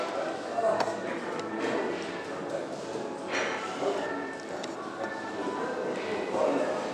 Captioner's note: none